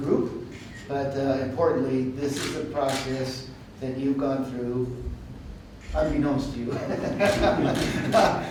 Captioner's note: laughter